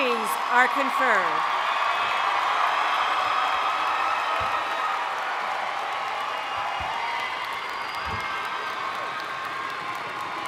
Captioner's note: cheering